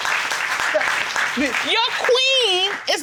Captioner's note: audience applauding